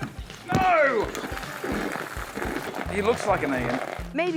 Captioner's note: exclaims